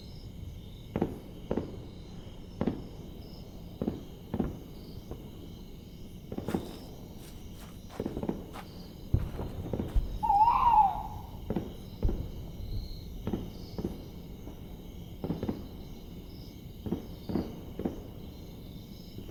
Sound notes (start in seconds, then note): 2.2 war sounds continue; 9.8 A bird caws